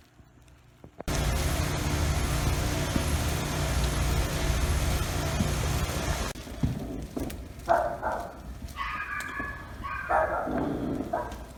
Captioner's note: dogs barking